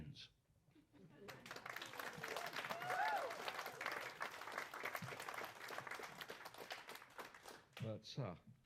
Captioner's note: applause